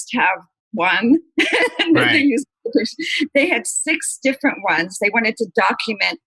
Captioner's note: laughter